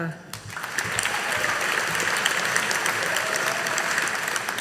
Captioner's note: audience applauding